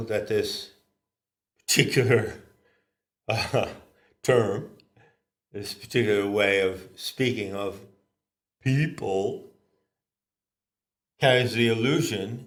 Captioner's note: ha ha